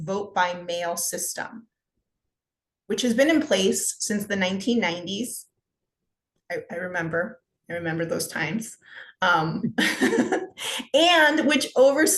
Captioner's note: laughter